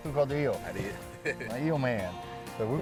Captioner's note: laughs